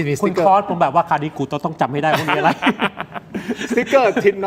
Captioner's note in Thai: เสียงหัวเราะ